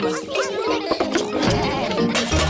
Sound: laughter

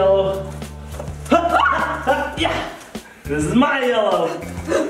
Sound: yelling

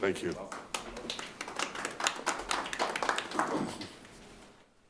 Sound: clapping

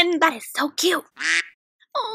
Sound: quack

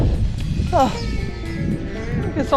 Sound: sighs

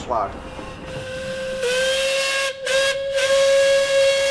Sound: whistle

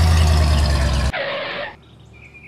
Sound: engine slow down; skid; birds chirping

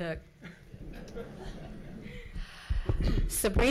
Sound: audience chuckles

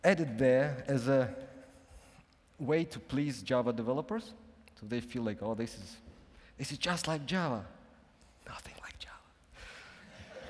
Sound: whispers

